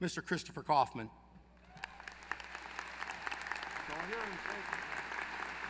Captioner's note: applause